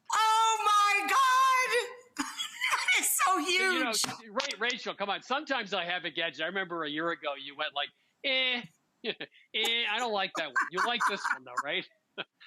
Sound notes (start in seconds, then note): 2.6 laughs; 10.3 laughs